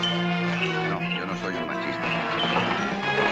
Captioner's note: in spanish